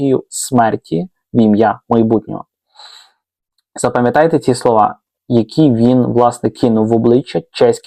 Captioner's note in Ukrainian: сопіння